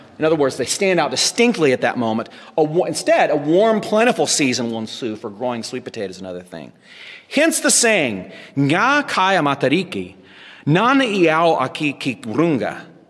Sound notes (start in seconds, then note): 8.6 non-english speech